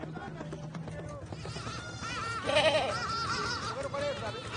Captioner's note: goat bleating